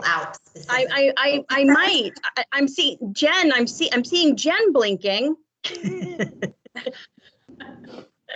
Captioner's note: laughs